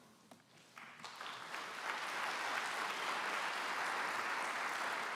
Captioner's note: applause